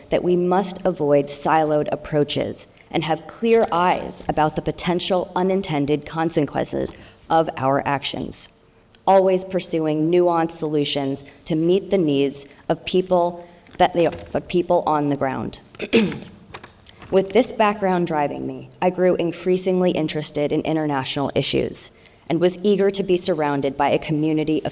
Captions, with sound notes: that we must avoid siloed approaches and have clear eyes about the potential, unintended consequences of our actions, always pursuing nuanced solutions to meet the needs of people on the ground. (clears throat) With this background driving me, I grew increasingly interested in international issues and was eager to be surrounded by a community